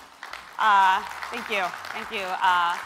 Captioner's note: applause